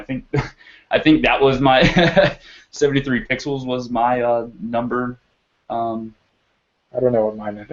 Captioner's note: laugh